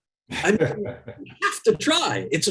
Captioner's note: laughs